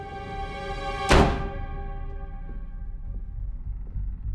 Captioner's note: tense music; door bangs